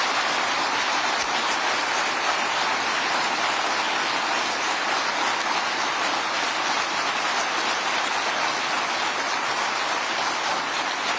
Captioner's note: applause